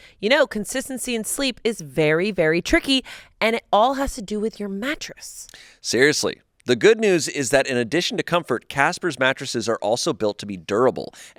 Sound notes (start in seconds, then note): none